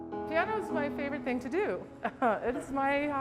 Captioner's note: laughs